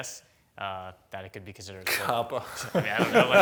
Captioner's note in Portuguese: risos